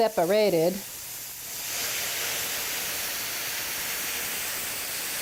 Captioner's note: sizzling